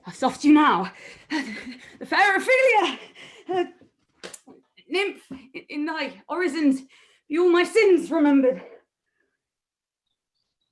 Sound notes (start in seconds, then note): none